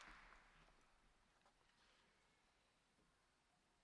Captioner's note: applause